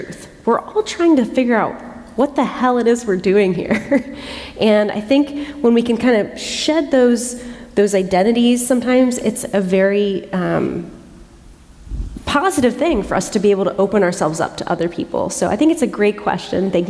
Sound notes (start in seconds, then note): 3.8 chuckle